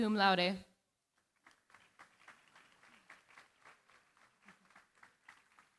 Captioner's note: applause